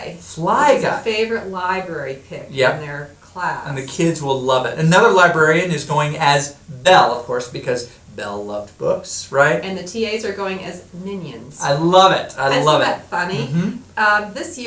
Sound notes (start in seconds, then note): 9.7 voiceover